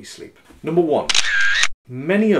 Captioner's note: camera snaps